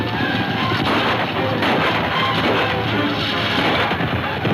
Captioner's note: gunfire pops